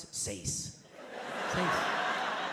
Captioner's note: audience laughs